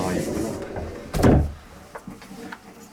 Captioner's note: the sound of closing the door